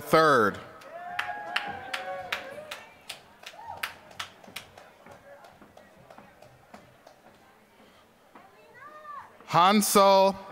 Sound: applause

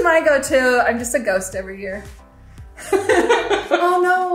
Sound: all laughing

